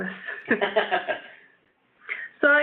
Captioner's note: laughs